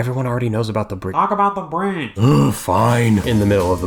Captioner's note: sigh